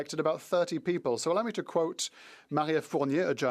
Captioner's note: speaking French